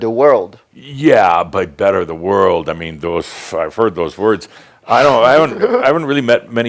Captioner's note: giggles